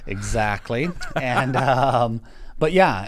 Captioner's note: laughing